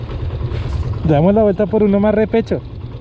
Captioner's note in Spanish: suave